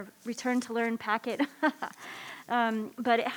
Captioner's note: laughs